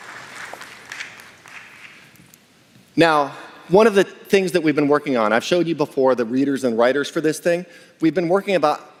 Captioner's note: applause